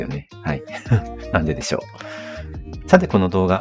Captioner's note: laughs